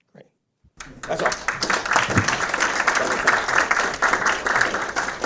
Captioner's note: audience applauding